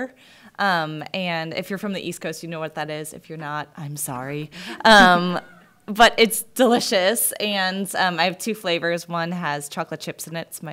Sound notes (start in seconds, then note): 4.9 soft laughter